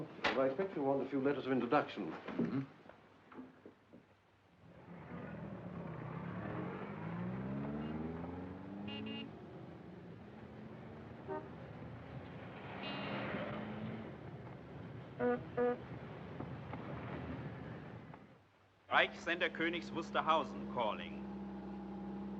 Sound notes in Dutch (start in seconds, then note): 8.7 claxons toeteren; 15.2 claxon toetert